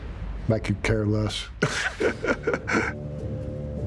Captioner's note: laughing